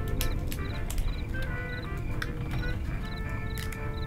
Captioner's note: crickets chirping